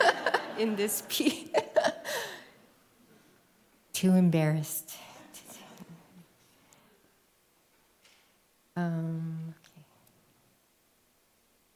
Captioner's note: laughs